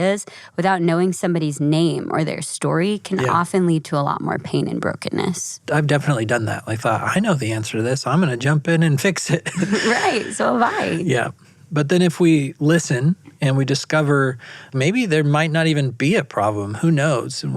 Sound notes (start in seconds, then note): 9.2 both laughing